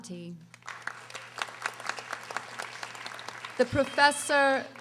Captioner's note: audience applauding